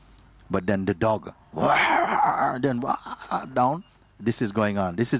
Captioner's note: growling and barking